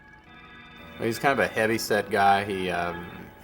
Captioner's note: voiceover